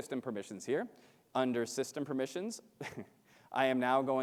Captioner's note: chuckles